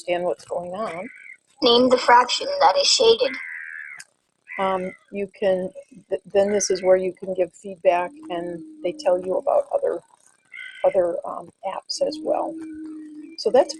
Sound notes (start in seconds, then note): 1.8 voiceover